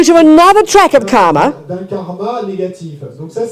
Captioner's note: speaking in French